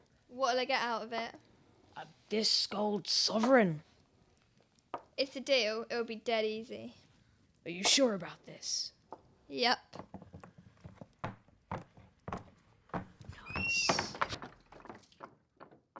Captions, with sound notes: What will I get out of it? This gold sovereign. It's a deal. It'll be dead easy. Are you sure about this? Yep! [door closes]